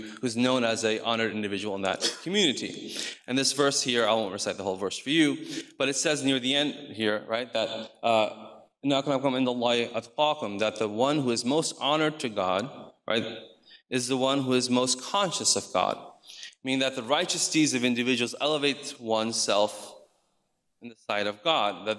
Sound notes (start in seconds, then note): 8.6 speaks in foreign language